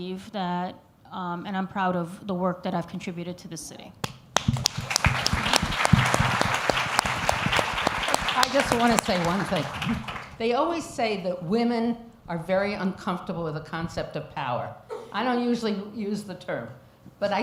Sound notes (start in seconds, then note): 4.3 applause